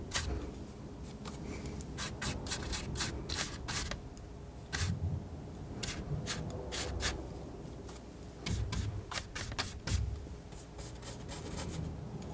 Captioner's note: scratching